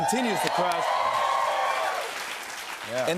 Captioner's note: cheers and applause